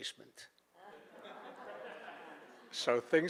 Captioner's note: audience laughing